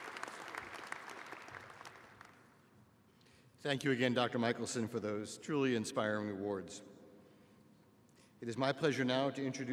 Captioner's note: applause